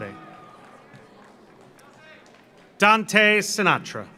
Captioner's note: audience cheers; audience applauds